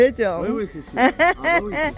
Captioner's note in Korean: 웃음